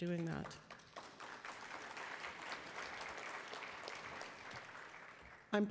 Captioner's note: attendees applauding